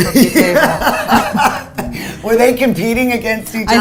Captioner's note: laughing